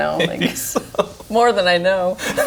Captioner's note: laughs